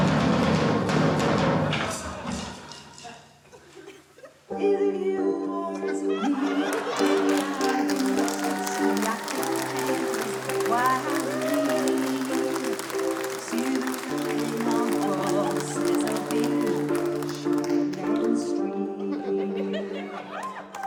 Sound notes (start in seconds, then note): 0.0 drums bang; 5.4 eerie music; 8.1 laughter, cheering, applause